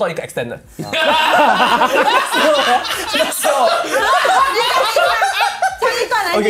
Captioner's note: commotion